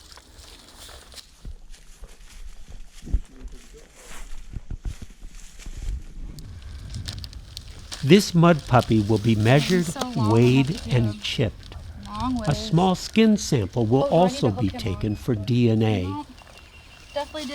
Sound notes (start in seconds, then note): 6.4 plastic crinkling